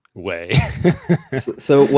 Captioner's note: chuckles